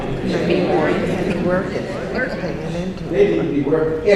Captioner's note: audience responds